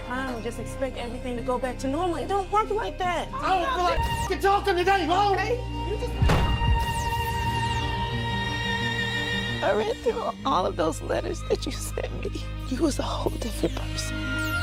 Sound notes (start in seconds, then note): 6.2 door slamming; 7.2 riveting instrumental music